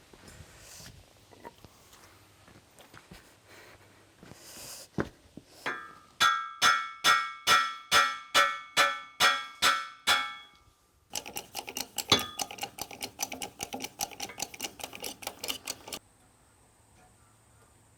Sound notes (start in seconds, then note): 5.6 hammer clanging